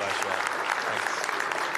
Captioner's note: applause